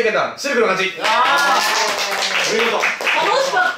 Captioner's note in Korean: 짝짝짝